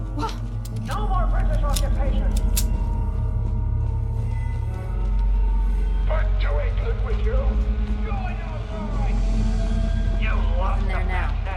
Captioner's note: gunshots